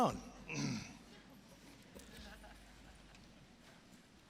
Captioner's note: scattered laughing